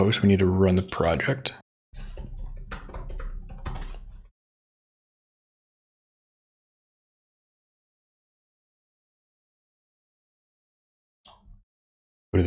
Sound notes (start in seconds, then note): 1.8 silence